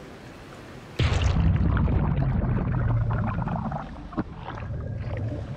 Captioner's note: water bubbling